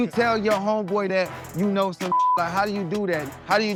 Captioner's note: beep